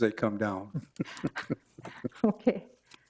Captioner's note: laughter